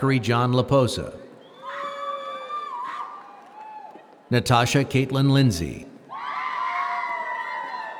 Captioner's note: applause